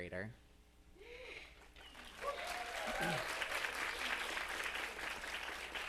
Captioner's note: audience cheering and applauding